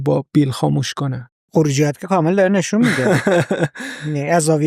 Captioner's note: laughs